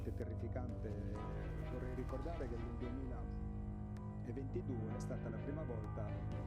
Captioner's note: gentle music continues; speaking in foreign language